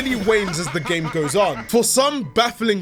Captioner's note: laughing